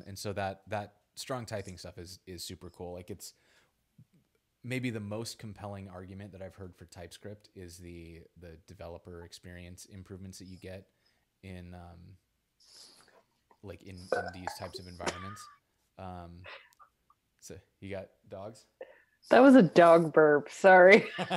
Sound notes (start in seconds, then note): 15.7 laughs